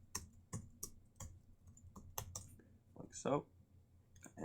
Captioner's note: keyboard keys tapping